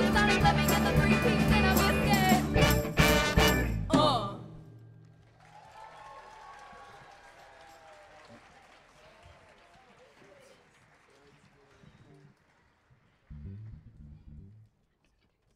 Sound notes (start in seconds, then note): 5.1 audience applauding